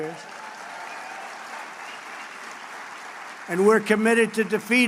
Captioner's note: applause